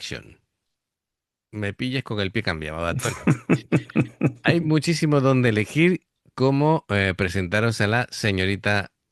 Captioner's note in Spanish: risas